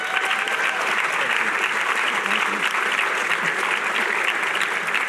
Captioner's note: cheering